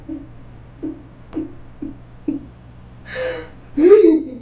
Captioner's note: sobbing